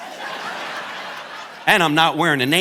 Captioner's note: audience laughing